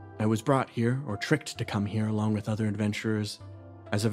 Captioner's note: none